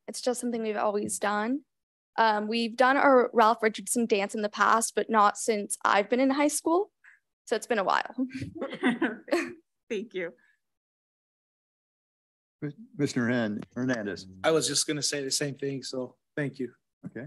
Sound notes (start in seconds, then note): 8.4 laughing